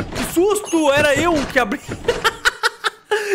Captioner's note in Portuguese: risos